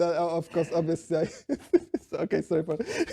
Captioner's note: laughing